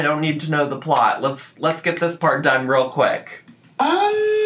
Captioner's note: fingers snapping